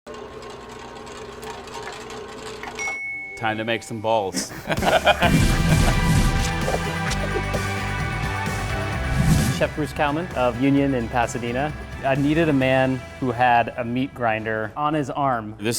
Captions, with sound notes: (soft beep) - Time to make some balls. (laughter) (bright upbeat rock music) - Chef Bruce Kalman of Union in Pasadena. I needed a man who had a meat grinder on his arm.